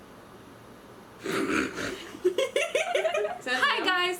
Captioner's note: laughter